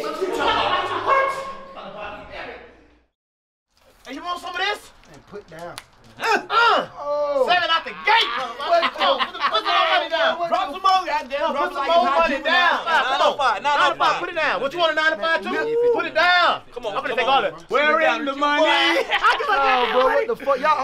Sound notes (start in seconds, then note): 6.0 grunting; 6.1 exclaims; 7.3 laughing; 18.6 laughing